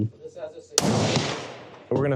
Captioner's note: gun fires